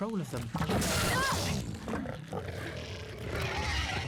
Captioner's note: snarls